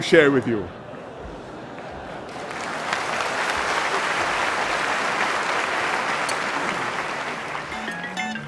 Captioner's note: laughter and applause; video and music plays